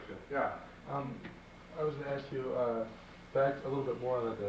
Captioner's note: male Voice